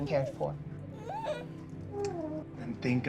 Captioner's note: baby coos